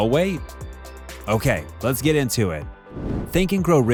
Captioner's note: air whooshing